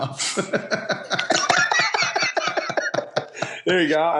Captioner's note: laughter